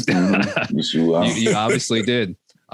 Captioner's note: all laughing